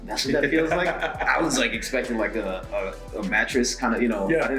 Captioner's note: laugh